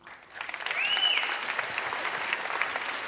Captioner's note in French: Applaudissements